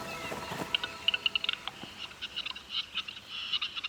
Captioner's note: bird nattering